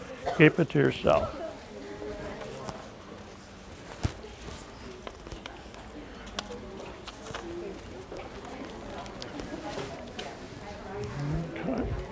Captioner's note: audience chatter